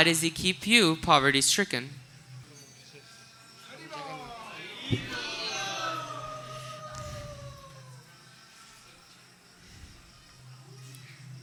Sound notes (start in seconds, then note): 5.0 ulu-dvani - "ululation"